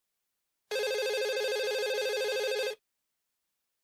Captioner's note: phone ringing